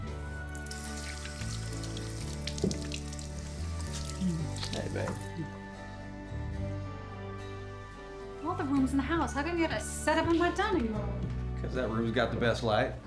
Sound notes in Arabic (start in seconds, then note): 0.4 جري الماء; 4.0 القبلات